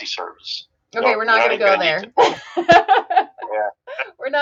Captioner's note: laughs